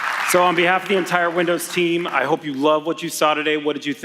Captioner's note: applause